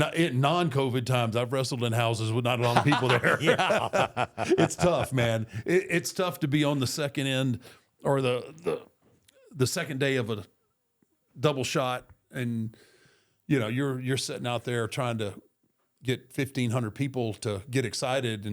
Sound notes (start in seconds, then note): 2.6 Michael laughs; 4.5 both laughing